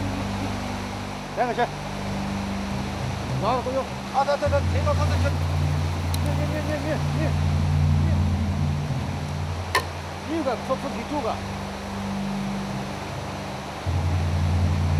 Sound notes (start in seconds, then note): 0.3 Chinese spoken audio; 10.3 Chinese spoken audio